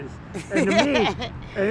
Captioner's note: laughs